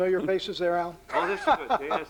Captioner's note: laughs